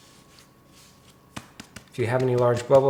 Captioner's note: dough scrapes; hand taps